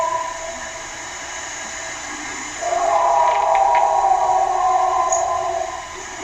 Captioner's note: animal howling continues